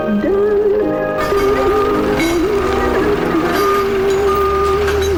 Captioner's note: truck beeping